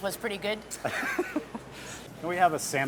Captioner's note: laughs